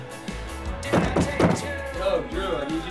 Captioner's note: knocking on door